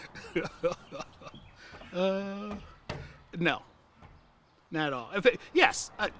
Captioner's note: laughs